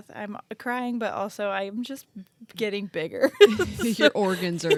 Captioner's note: laughs